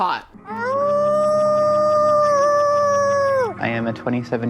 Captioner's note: howling